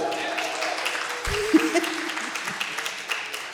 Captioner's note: cheering, applause